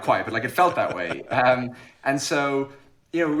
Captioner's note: laughs